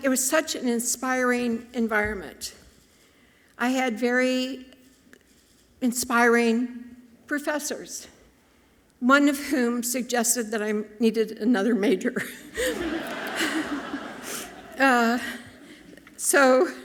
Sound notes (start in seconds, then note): 12.4 audience laughing softly